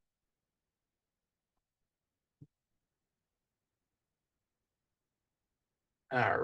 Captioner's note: silence